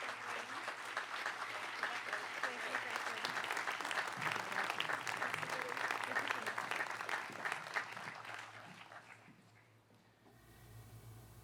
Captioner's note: applause